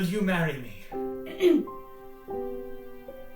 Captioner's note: clears throat